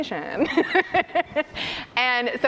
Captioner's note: laughs